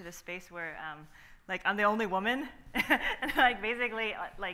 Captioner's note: laughs